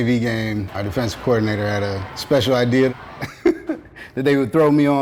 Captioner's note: laughing